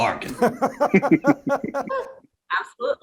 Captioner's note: laugh